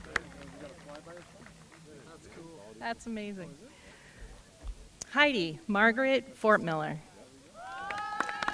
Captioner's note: applause